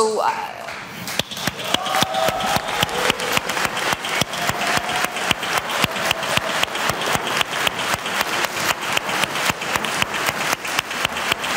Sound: applause

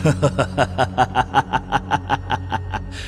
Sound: triumphant laugh

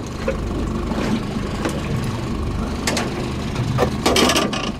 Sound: boat engine idling

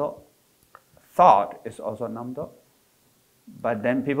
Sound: foreign language

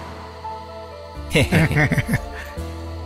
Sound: laughs

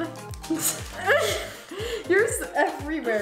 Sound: both laugh

